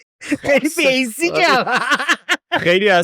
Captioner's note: laughs